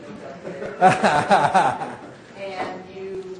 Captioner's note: all laughing